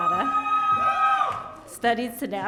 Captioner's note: audience shouting